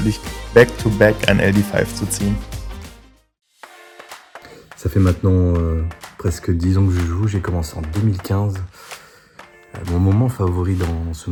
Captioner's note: French